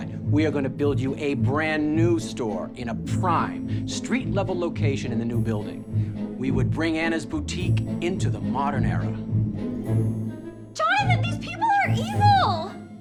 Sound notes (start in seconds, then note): none